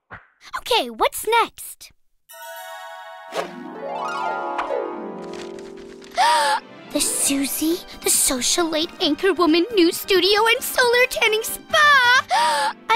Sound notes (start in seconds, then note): 6.1 gasp